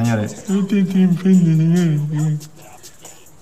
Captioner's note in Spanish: se burla